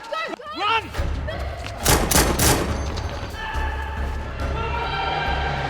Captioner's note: dramatic music; gun banging; tires screeching; group screaming